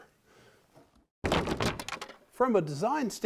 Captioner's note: clanging